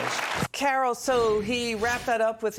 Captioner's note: applause